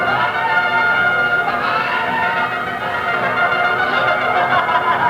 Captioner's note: screaming